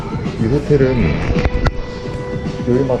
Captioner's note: camera adjustment